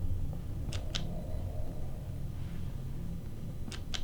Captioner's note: clicking